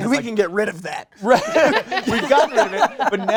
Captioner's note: laughter